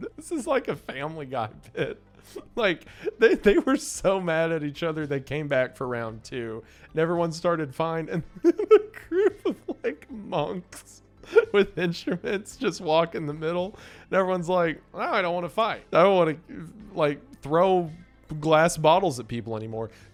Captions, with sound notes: This is like a "Family Guy" bit. Like, they were so mad at each other, they came back for round two. And everyone started fine, and then a group of, like, monks... [laughing] ...with instruments just walk in the middle. And everyone's like, "Well, now I don't want to fight. I don't want to, like, throw glass bottles at people anymore."